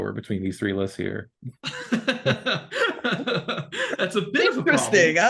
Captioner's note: laughing